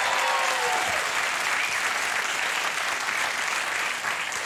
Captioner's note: cheering continues